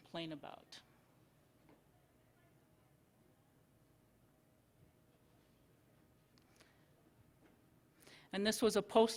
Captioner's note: silence